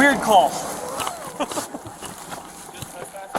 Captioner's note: laughs